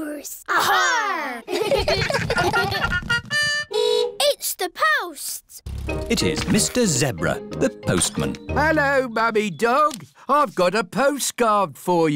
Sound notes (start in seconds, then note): 0.5 giggling; 3.0 horn beeps